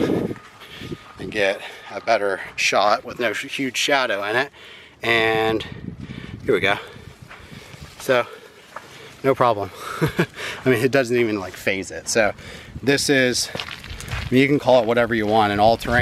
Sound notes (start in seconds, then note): 9.7 chuckles